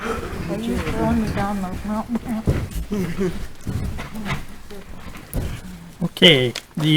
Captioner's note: board member speaks off microphone